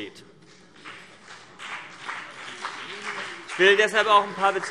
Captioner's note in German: Beifall BÜNDNIS 90/DIE GRÜNEN